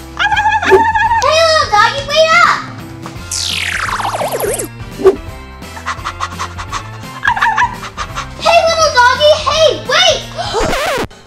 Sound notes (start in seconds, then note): 0.5 yapping; 3.2 futuristic zapping; 5.2 whoosh; 7.0 panting and barking